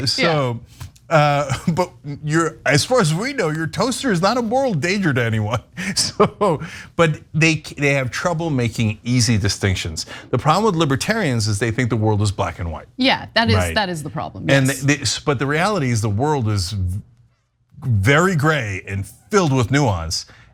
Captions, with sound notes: >> So, but you're as far as we know your toaster is not a moral danger to anyone. [LAUGH] So, but they have trouble making easy distinctions. The problem with libertarians is they think the world is black and white. >> Yeah, that is the problem. >> And but the reality is the world is very gray and filled with nuance.